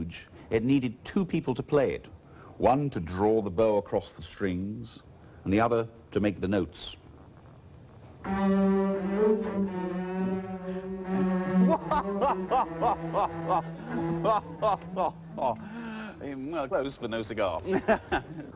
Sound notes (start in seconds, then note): 11.6 conductor laughing